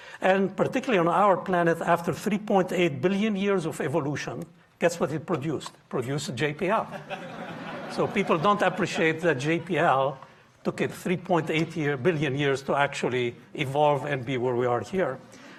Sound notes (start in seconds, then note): 6.8 audience laughing